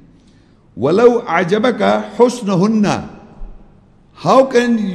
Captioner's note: Arabic